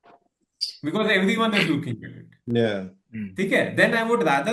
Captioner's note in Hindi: गला साफ़ करने की आवाज़